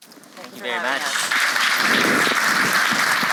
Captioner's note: applause